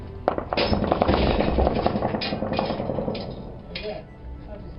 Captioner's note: explosions booming